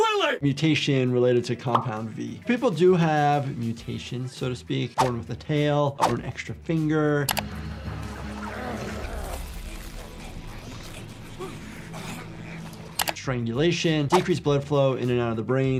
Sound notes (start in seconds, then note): 7.3 mouse clicking; 7.7 person grunting